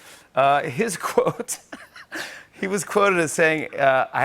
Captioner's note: laughs